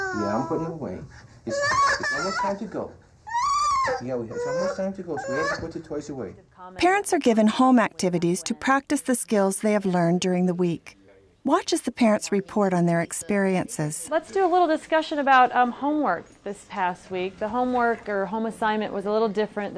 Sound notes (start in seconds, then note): 1.5 child crying; 6.9 voiceover